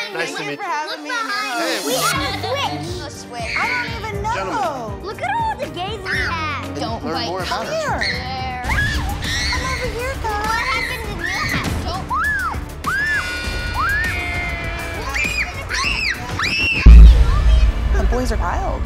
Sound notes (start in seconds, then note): 12.8 boys yelling